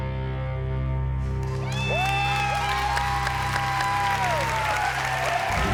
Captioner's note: cheering and applause; suspenseful music